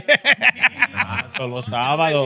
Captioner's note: laughing; speaking In Foreign Language